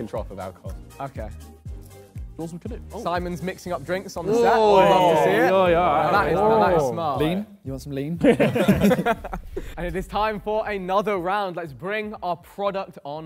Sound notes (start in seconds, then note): 4.2 Sidemen cheer; 10.4 Sidemen laugh